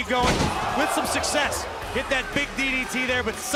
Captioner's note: crowd cheering